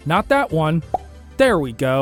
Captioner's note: pop sound